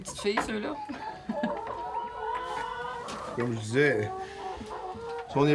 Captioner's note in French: caquètements